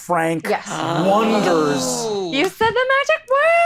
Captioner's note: all exclaiming